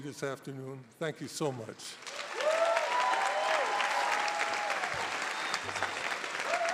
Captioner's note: audience applauding